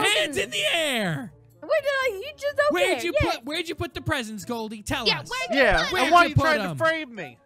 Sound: Goldie exclaims in protest; Goldie flounders to defend herself and begins crying

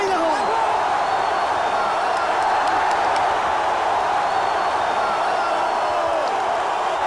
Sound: crowd cheering

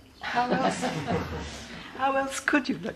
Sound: laughter

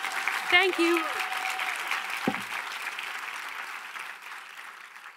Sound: audience applauding

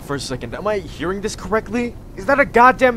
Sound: distant helicopter

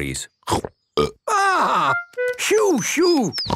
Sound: burps

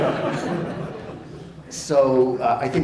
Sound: crowd laughing

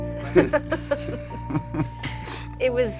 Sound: somber music; Elena and Javier laughing

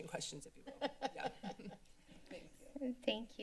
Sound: laughter

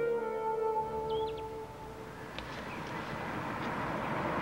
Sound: gentle jazzy music; birds chirping; car whooshing

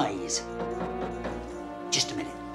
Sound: knocking

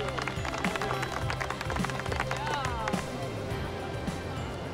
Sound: group cheers and claps

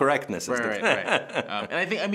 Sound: laughing

